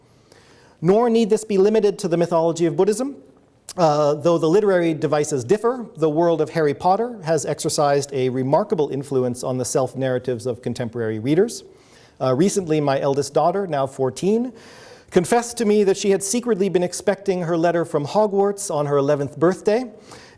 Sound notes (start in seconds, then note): none